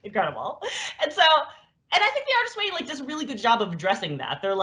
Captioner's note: laughs